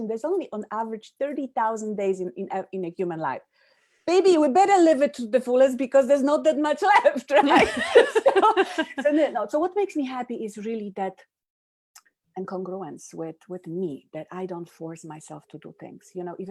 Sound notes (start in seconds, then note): 7.4 laughs